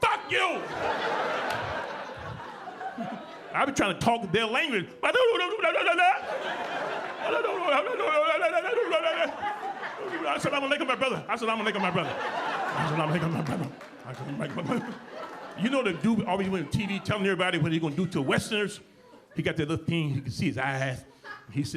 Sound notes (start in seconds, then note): 0.3 audience laughing; 5.0 speaking gibberish; 6.6 audience laughing; 12.3 audience laughing; 14.6 audience laughing